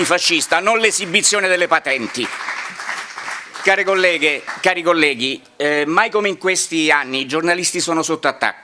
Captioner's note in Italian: Applauso